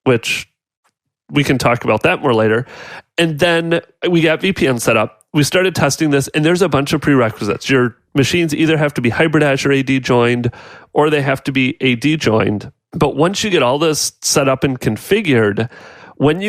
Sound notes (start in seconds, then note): none